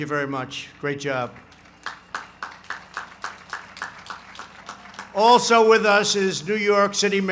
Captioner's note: applause